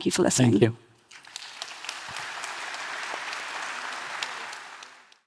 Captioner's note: audience applauding